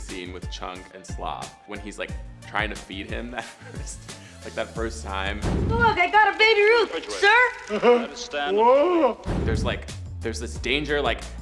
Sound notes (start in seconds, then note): 3.4 chuckles; 6.0 air whooshes; 6.6 laughs; 9.8 air whooshes